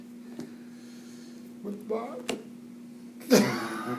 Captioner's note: chuckles